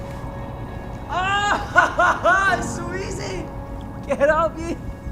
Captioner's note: laughs